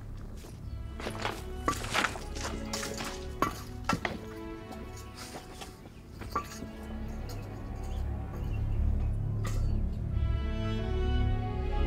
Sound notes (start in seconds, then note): 0.9 footsteps thudding; 7.0 somber music continues